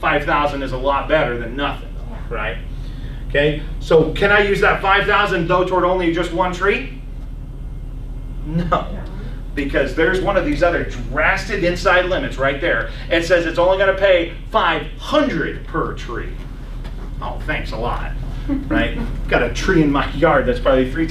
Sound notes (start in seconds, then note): 8.6 laughs